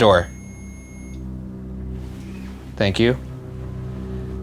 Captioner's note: REM-Pod stops beeping